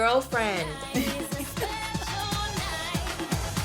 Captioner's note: laughs